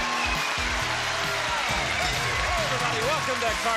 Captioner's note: applause, cheering